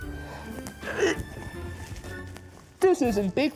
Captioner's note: grunting